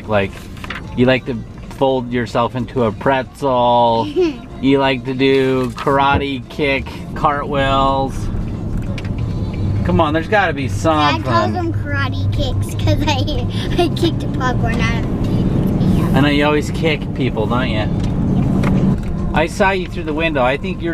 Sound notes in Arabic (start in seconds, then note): 4.0 يضحك